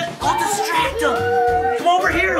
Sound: hushed tone

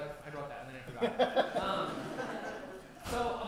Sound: laughter

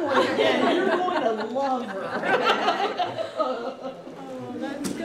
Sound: laughter

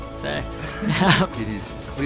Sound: laughs

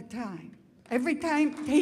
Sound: audience applauds

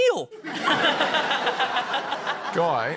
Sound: laughter

